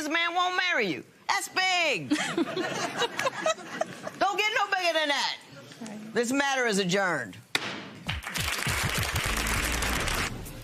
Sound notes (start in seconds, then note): 2.1 laughter; 8.0 applause